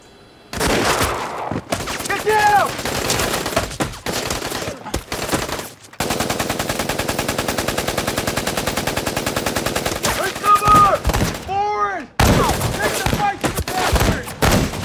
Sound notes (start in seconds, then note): 1.7 rifle fires; 2.7 rifles firing; 5.5 machine gun firing